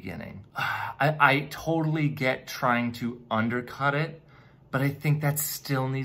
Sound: sighs

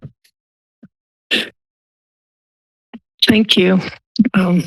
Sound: mic rustling

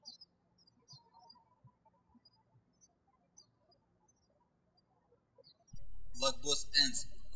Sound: birds chirping

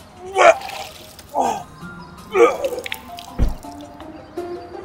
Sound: Herman vomits

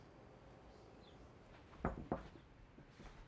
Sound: knocks

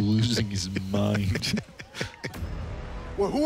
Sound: laughing

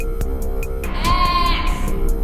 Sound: scream

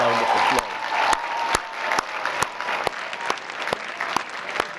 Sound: applause

